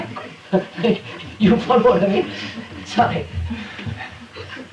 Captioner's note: laughs; laughter